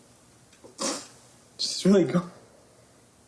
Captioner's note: sniffs